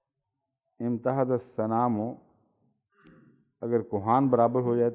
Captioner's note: Arabic